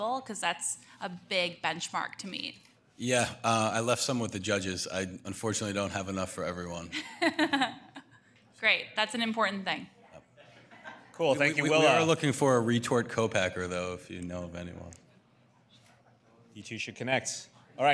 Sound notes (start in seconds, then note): 7.5 laughing